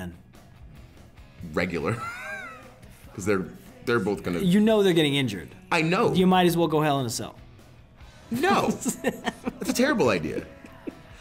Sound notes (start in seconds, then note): 1.8 laugh; 8.3 laugh